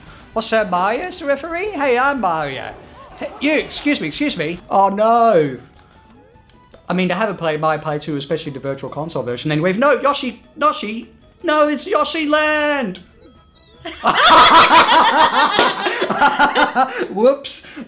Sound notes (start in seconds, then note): 13.8 laugh